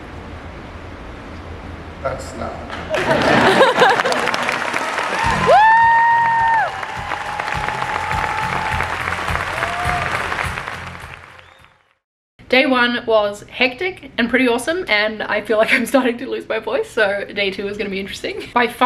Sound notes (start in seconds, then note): 2.8 audience laughing; 2.9 audience cheering